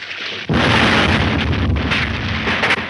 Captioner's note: explosion roars; debris clattering